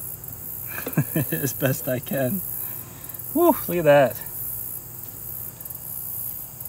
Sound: chuckle

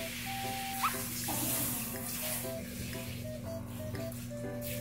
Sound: rinsing with water

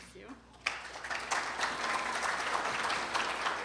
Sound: applause

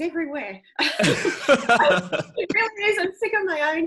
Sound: laughing

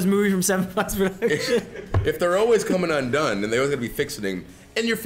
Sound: laugh

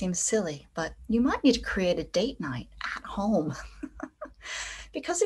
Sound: chuckles

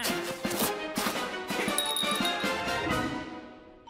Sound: bell rings

